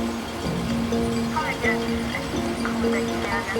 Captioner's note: indistinct radio chatting